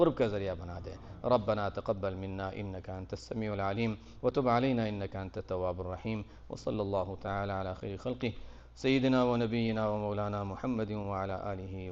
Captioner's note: Arabic